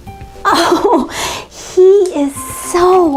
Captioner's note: laughing